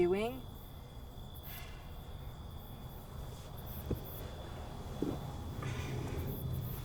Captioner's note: crickets chirp; faint traffic noise